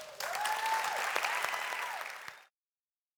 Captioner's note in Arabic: تشجيع; تصفيق